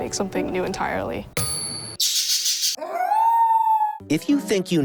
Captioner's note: sound effects